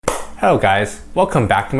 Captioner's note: clap